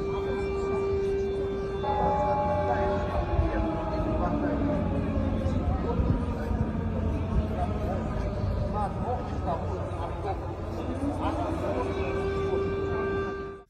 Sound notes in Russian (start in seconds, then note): 2.5 звучит сирена